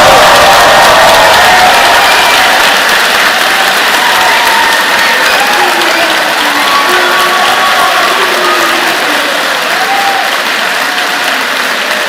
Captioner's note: cheers and applause